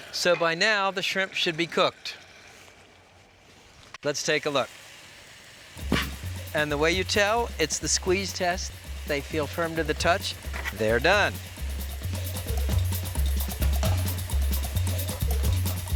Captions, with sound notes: So by now, the shrimp should be cooked. Let's take a look. (shrimp sizzling) (upbeat music) And the way you tell, it's the squeeze test, they feel firm to the touch, they're done. (upbeat music)